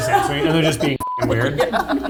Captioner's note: beep